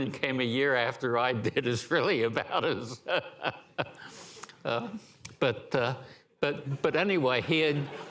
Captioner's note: laughter